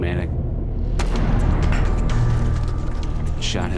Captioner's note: gun firing